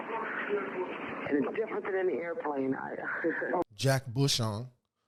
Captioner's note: chuckles